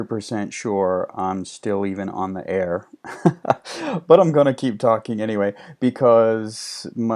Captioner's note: laughing